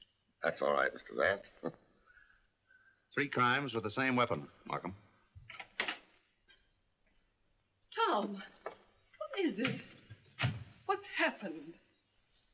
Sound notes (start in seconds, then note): 5.4 door opens; 10.3 door closes